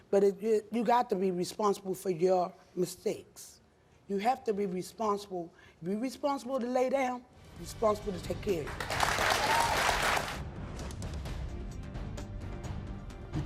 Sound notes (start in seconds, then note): 8.7 audience applauds; 10.0 dramatic music